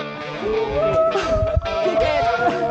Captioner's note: whooping